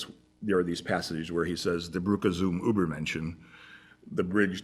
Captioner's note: non-english